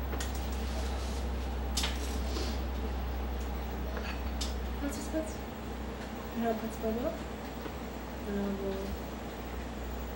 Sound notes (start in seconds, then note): none